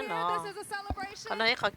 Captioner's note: cheers